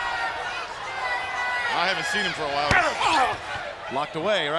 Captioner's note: crowd chatter